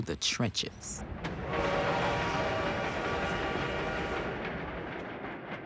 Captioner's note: train horn blares